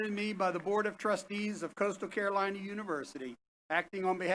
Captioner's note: applause